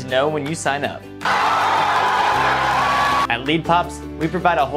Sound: crowd cheering

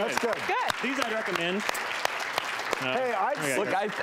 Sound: audience applauding

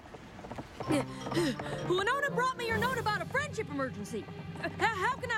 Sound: hoofbeats approaching

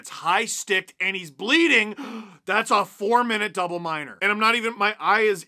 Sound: gasp

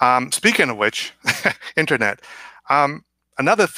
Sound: laughs

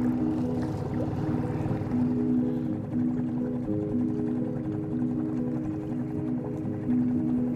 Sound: boat engine rumbling; slow-tempo piano music

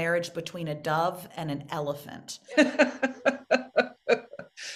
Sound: laughing

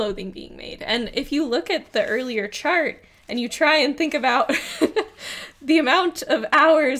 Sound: laughs

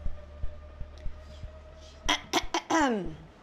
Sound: whispering; clears throat loudly

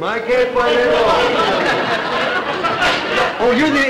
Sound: audience laughter

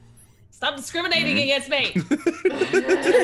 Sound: laugh

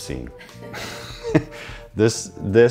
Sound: both laugh

